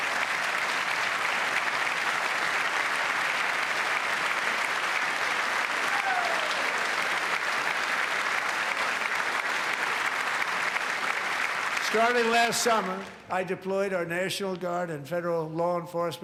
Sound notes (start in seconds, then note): 10.6 applause